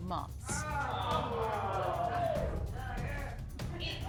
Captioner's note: audience exclaims